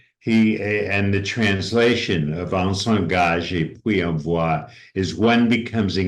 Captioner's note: speaking french